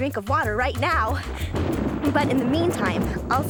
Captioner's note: thunder rumbles